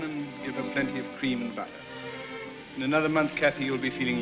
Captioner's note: none